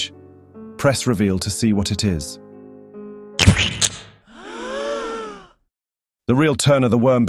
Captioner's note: splat; audience gasps